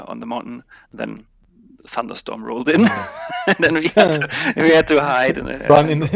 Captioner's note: laughs